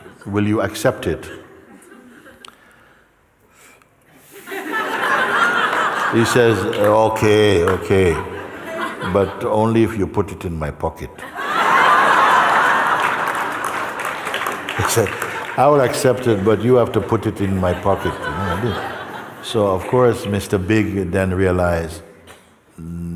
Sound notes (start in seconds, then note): 4.4 Lachen; 11.2 Lachen und Applaus